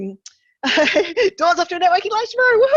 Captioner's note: chuckles